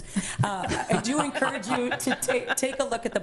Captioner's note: laughing